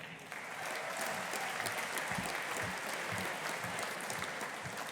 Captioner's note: audience applauding